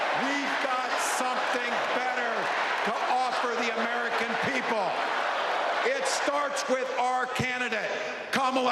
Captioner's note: crowd chanting